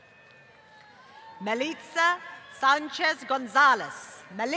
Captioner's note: applause